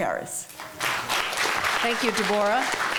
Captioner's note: clapping